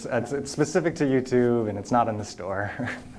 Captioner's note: laughter